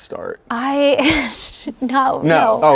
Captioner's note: chuckles